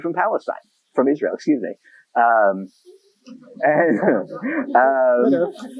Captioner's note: laughter